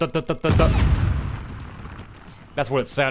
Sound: explosion

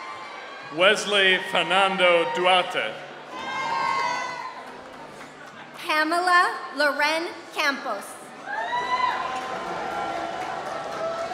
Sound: applause

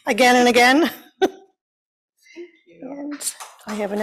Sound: applause

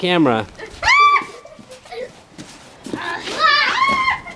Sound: screams

